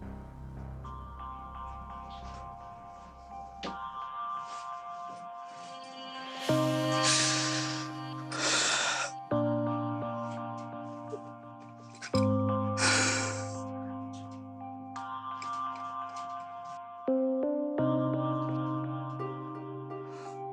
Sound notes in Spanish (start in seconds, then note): 7.1 Sollozos